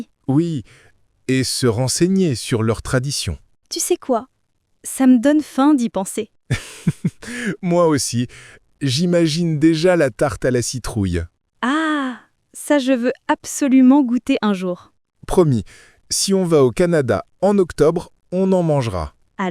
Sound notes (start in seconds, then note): 6.5 laughing